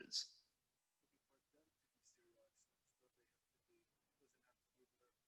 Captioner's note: student speaking faintly